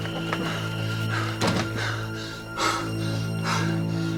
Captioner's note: breathing heavily; door closing